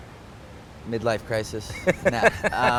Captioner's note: laughs